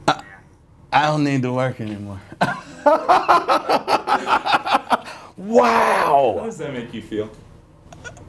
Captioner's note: laughs